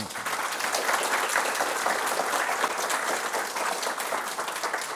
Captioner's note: applause